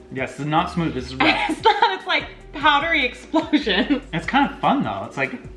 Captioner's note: laughs